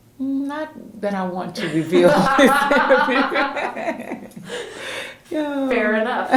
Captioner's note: laughter